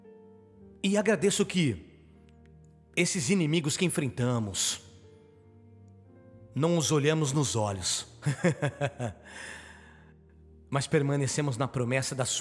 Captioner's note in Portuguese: risos